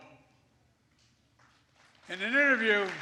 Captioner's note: applause